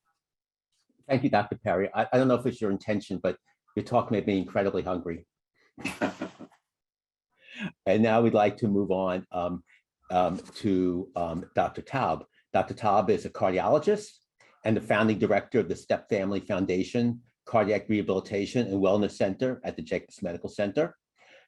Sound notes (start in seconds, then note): 5.8 laughter